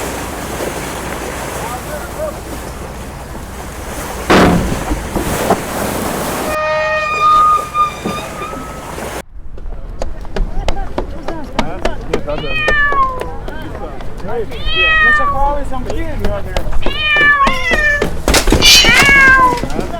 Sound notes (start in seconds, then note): 6.4 a gangplank slams open and shrieks to a halt; 14.5 meows